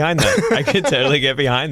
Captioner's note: laughter